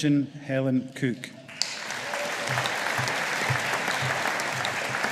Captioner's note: audience applauding